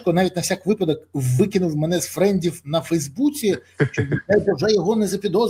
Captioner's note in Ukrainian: сміх